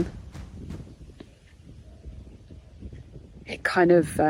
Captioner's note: wind whooshing